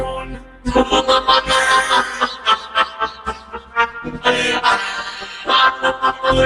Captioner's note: laughing